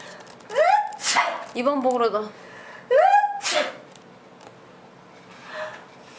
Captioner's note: sneezes